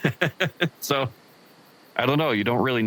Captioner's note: giggles